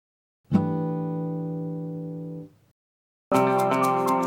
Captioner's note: chime sounds; upbeat music